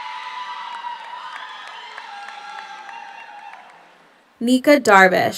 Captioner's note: audience applauds; audience cheers